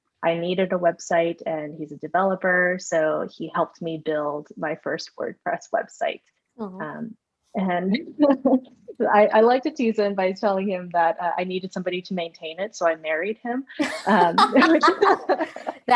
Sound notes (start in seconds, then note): 7.9 laughs; 13.8 laughter